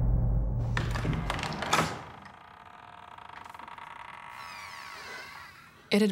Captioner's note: door opens